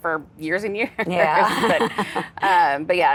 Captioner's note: laughs